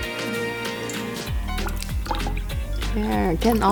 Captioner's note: lemon juice pouring into the cocktail shaker